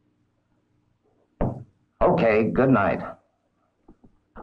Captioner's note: pencil tapping